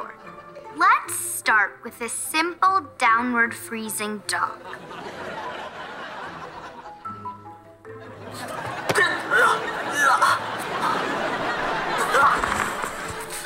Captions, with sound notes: Let's start with a simple downward freezing dog. [grunting]